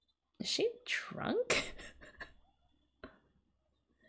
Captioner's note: laughs